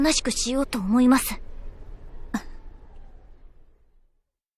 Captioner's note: sigh